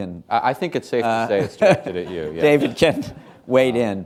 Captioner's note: laughter